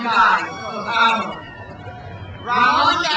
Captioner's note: speaks in foreign language